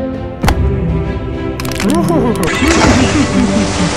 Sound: Master Coda laughs mischievously

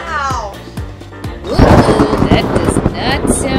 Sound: thunderclap

